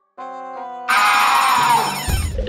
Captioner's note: bell rings